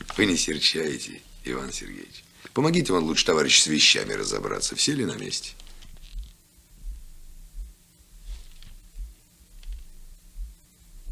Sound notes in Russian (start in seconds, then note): none